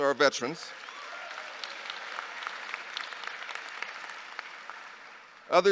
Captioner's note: audience applauding